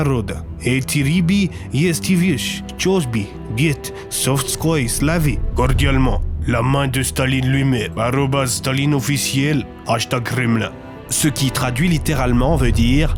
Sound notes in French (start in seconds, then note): 0.0 Accent Russe; 10.0 Accent Russe